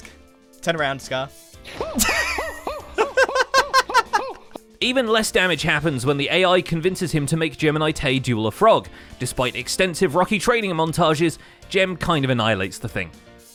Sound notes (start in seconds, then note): 1.7 laughs; 1.8 shouting